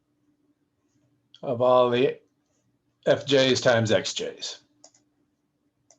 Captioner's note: typing